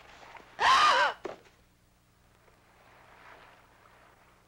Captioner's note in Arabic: جلاديس تلهث